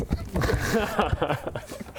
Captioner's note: schoolboy giggles